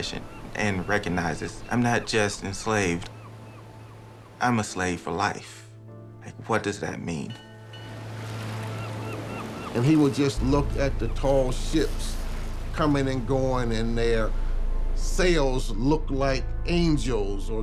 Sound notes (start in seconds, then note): 7.3 birds calling; 7.7 bell ringing